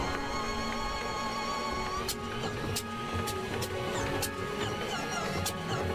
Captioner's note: engine puttering